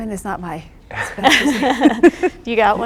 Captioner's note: laughing